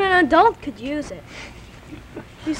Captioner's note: chuckles